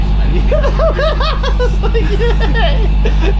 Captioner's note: laughter